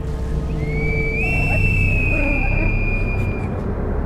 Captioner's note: bird whistle; dog whining